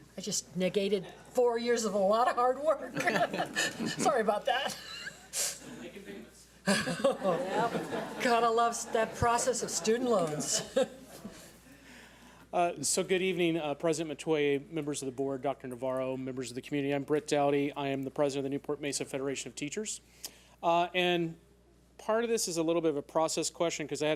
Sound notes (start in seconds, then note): 2.9 laughs; 6.0 man speaks off mic; 6.7 attendees laugh